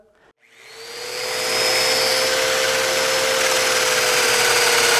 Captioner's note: machine whirring